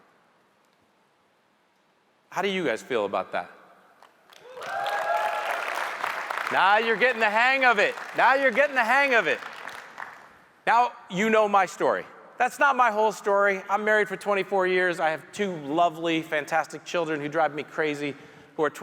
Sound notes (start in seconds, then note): 4.3 audience cheering and applauding